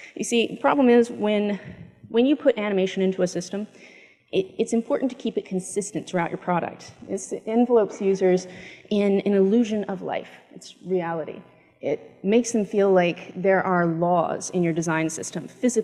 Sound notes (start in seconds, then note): none